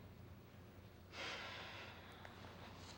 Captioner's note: sighs